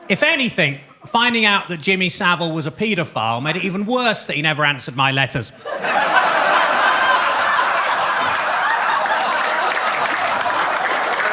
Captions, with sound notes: If anything, finding out that Jimmy Savile was a pedophile made it even worse that he never answered my letters. (audience laughs) (audience claps)